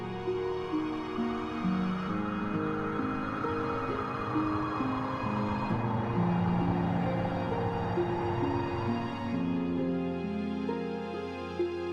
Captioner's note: Thunder rumbling